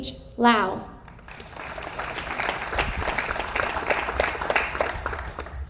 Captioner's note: audience applauds